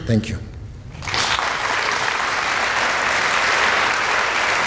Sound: applause

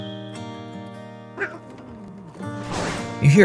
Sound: cat Snarling

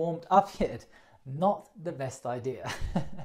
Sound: chuckles

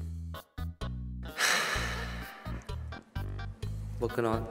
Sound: long sigh

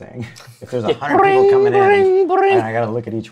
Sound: laughs; phone ringing sounds

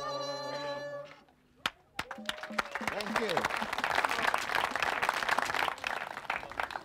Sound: clapping

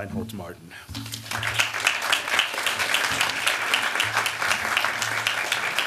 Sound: applause

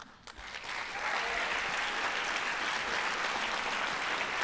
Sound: audience applauding

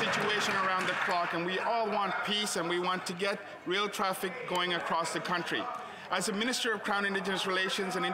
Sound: applause

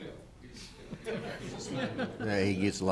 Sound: laughs

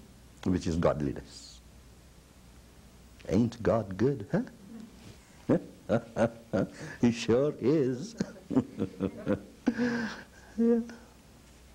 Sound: laughs

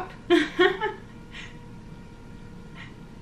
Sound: laughs

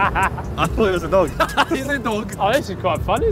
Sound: Simon laughing

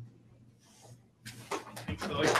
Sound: applause

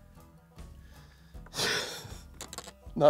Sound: chuckles

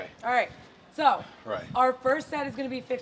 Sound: none

